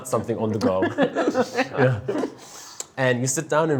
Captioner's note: laughter